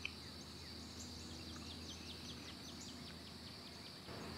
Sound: birds chirping

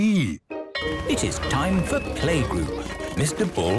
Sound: school bell ringing

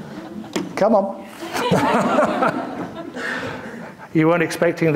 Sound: audience laughing

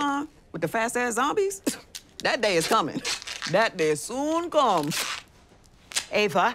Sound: scoffs

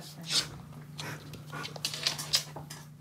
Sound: panting

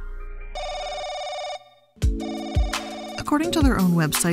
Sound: telephone rings

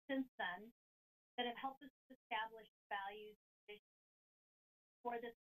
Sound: audio cuts

